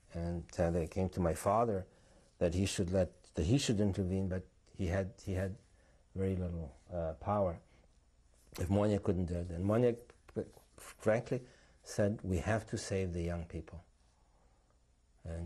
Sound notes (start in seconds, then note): 7.3 non-english; 10.6 non-english